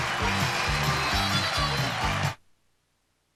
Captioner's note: cheers and applause